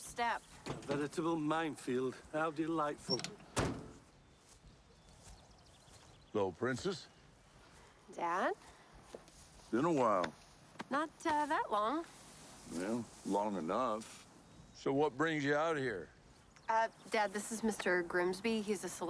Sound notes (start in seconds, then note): none